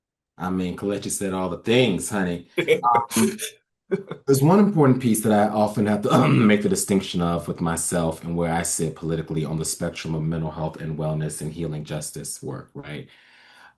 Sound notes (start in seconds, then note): 2.6 laughs; 5.9 clears his throat